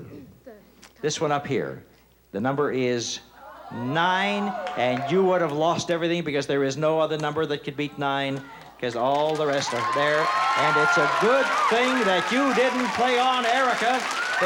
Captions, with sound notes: This one up here. The number is nine. (audience gasping) And you would've lost everything because there is no other number that can beat nine. 'Cause all the rest are there. (cheering and applause) And it's a good thing that you didn't play on, Erica,